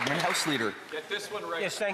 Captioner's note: applause